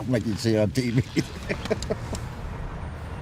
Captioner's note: laughter